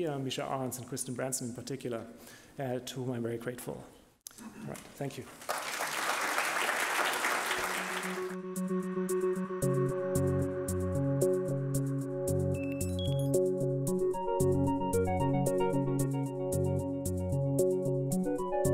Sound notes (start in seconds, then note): 5.2 audience claps; 8.6 mellow electronic music